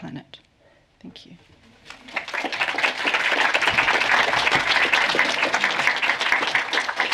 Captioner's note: applause